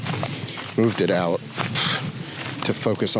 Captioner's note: scoffs